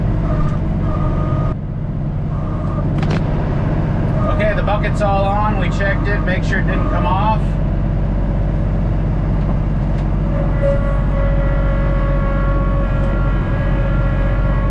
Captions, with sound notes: Okay, the bucket's all on., we checked it, made sure it didn't come off. (engine humming) (tractor whirring)